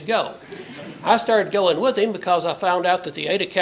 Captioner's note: laugh